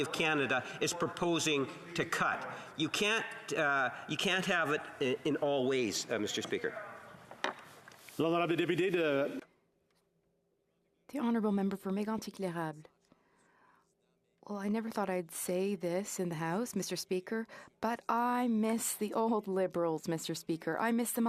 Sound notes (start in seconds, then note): 14.1 speaking French